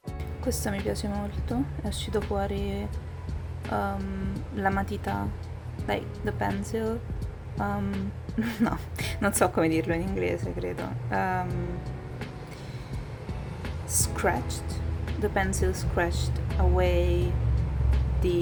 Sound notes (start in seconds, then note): 7.0 in italian